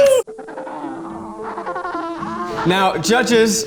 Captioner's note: penguins cawing; guys laughing heartily